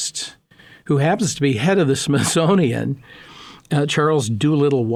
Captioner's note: laughing